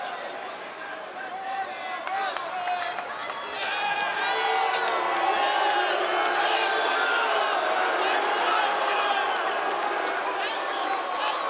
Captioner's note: crowd chatter